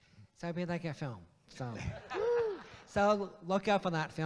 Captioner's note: audience laughs